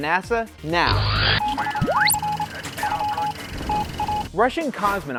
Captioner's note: sound Effects